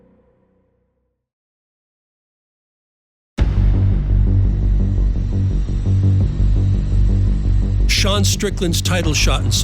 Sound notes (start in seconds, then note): 3.4 anticipatory music; 5.3 jet engine whining